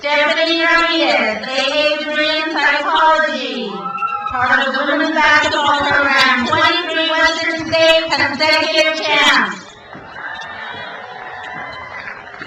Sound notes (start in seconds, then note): 3.5 crowd cheers; 8.9 crowd cheers